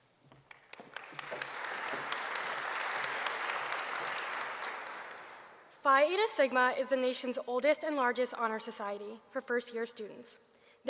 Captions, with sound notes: (audience applauding) - Phi Eta Sigma is the nation's oldest and largest Honor Society for first-year students.